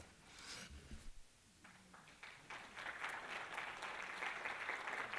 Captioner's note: applause